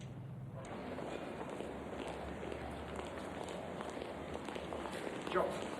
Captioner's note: feet clacking; people chattering